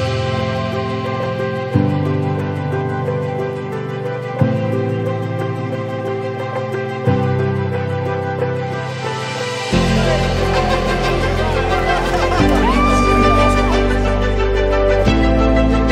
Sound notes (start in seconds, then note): 0.1 soft orchestral music; 9.7 people laughing and cheering; 11.1 screaming